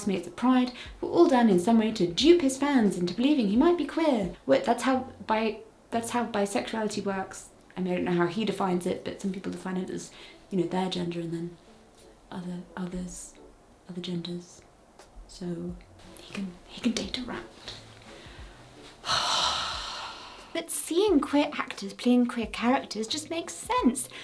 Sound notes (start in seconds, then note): 19.0 exasperated sigh